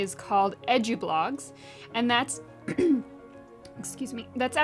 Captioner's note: cough